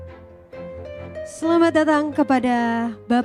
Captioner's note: speaking indonesian